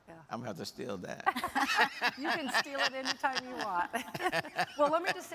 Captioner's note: laughs